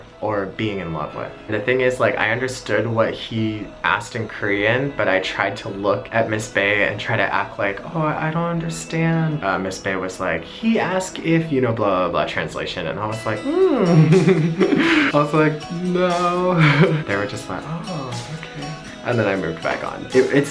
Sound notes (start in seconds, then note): 13.6 laughs